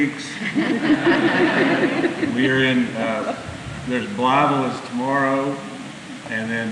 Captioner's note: laughter